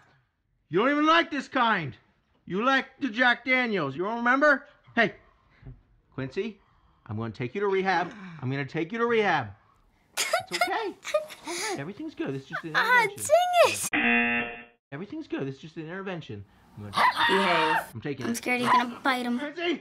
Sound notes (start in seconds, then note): 10.2 laughing; 13.8 buzzer; 16.9 dog hollers